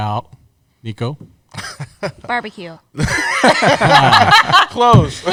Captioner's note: laughter